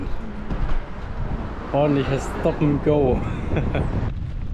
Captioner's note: traffic